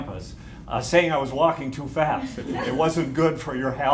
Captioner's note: laughter